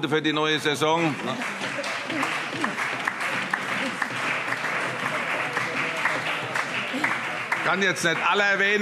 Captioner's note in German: Beifall